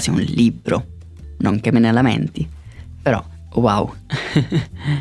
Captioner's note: laughs